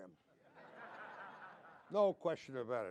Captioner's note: laughter